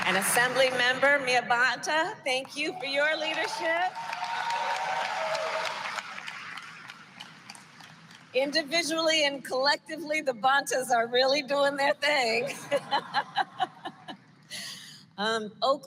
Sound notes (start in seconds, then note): 4.2 applause; 12.4 laughter